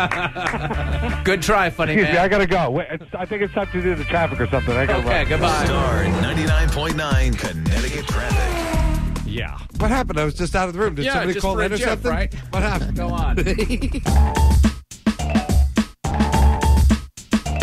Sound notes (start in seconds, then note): 13.3 laughs; 14.5 bumper music